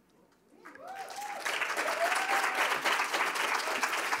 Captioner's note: applause